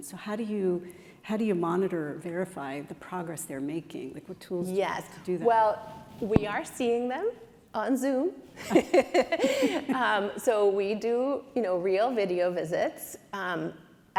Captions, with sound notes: So how do you monitor, verify the progress they're making? Like what tools do you have to do that? - Yes. Well we are seeing them on Zoom. (chuckles) So we do, you know, real video visits.